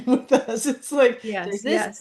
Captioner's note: laughs